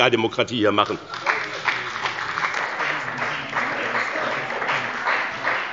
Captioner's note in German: Beifall bei dem BÜNDNIS 90/DIE GRÜNEN und der CDU